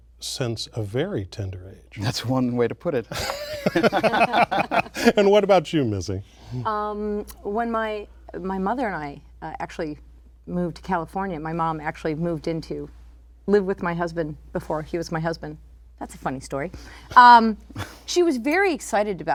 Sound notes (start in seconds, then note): 3.1 laughter